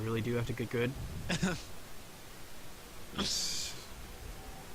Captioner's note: laughing